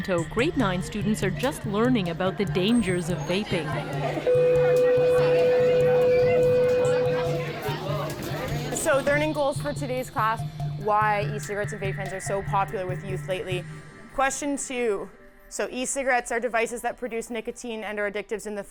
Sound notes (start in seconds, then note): 4.0 school bell rings